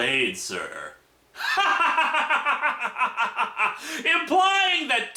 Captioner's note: sarcastic laughter